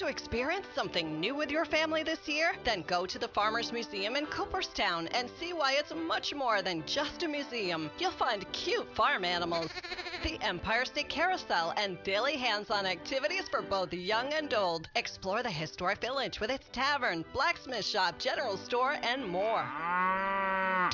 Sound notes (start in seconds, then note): 9.6 sheep bleating; 19.3 cow mooing